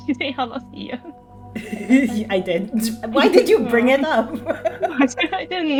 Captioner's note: laughs